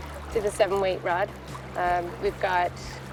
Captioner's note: light mellow music; water lapping softly; light mellow music